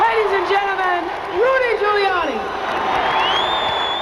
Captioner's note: cheering and applause